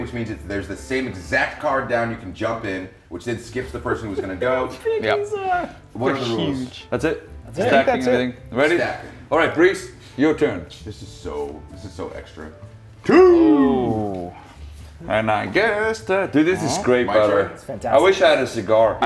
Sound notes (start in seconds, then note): 4.0 laugh